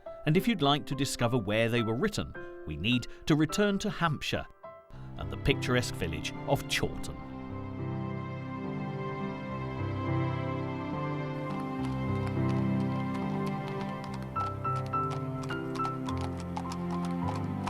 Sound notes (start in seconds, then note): 7.6 gentle music; 11.0 hooves clopping